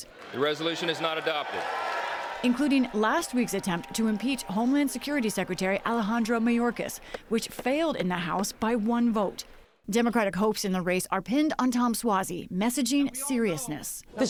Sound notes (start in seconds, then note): 2.3 cheering and applause